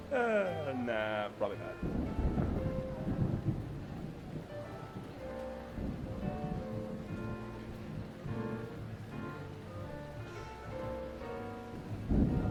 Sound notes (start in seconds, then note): 2.5 thunder rumbling; 6.1 light piano music